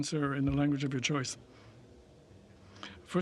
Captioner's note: speaking French